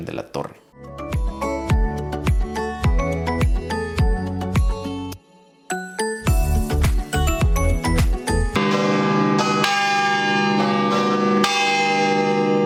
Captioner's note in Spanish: Campanas tocando